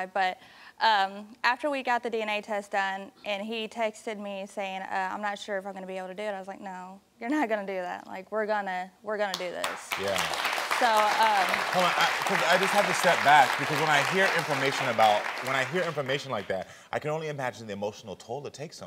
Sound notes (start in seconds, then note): 9.6 audience applauding